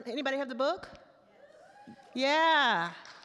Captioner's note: attendees whoops